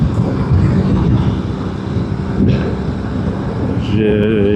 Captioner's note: engine